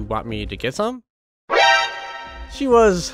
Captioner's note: Metal gear solid alert